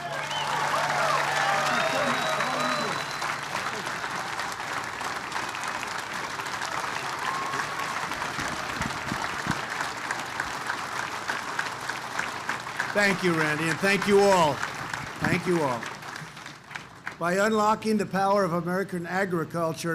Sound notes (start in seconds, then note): 0.7 applause